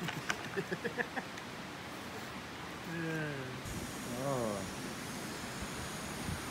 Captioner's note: chuckles followed by post-chuckle sigh